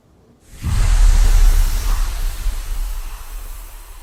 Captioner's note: whooshing